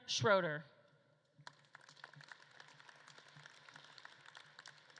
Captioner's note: audience claps